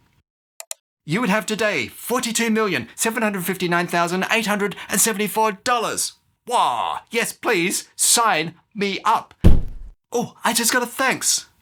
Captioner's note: door slams